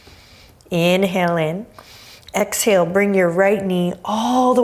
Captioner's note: deep breaths